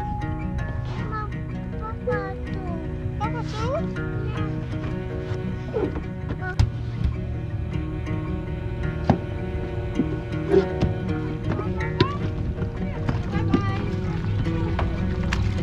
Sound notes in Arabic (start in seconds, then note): 3.4 يقلد; 15.3 موسيقى صوتية